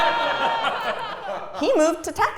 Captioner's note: laugh